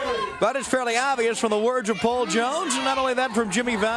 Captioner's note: crowd chatter